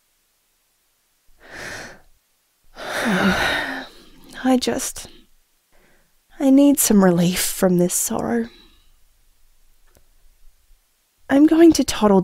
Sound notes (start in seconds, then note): 2.7 tired sigh